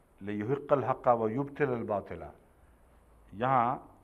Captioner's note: Arabic